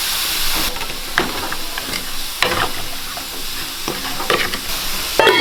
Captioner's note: food bubbling